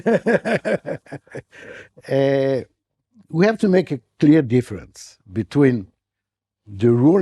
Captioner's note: chuckling